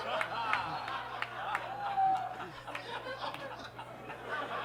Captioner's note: audience laughs